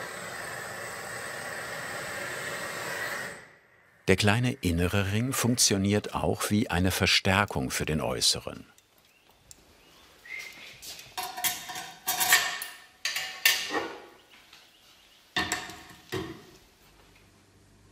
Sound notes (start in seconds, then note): 10.5 rattling